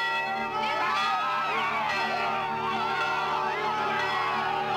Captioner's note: loud cheering